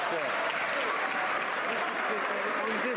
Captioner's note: some Applause